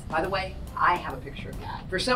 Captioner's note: none